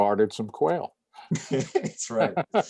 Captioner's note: laughter